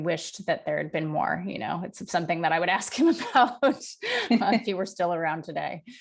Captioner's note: laughs